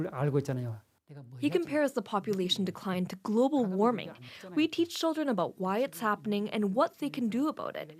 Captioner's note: speaking Alternate Language